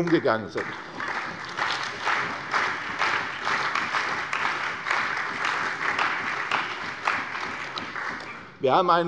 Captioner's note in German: Beifall bei der CDU und dem BÜNDNIS 90/DIE GRÜNEN